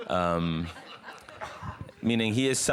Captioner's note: audience laughs